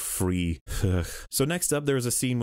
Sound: sigh

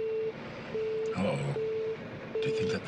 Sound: mysterious beeping

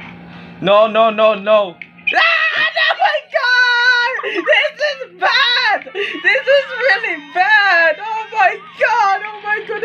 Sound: screams

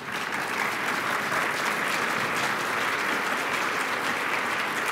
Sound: applause

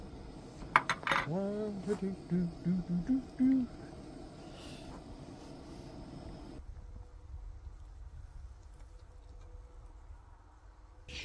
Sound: humming

